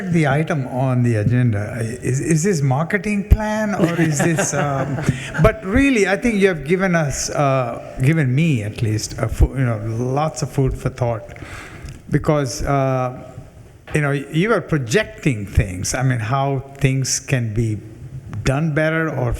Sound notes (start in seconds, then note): 3.7 attendees laughing